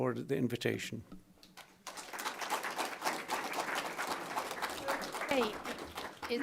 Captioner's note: audience clapping